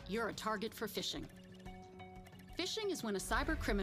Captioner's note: computer trilling